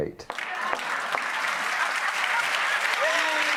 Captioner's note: applause